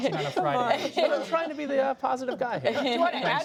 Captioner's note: laughter